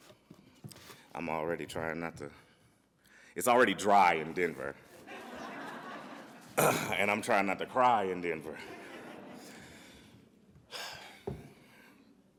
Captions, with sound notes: I'm already trying not to. It's already dry in Denver. (audience laughs) And I'm trying not to cry in Denver. (audience laughs)